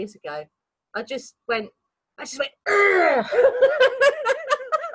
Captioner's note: laughing